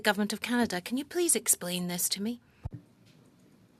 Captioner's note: speaking French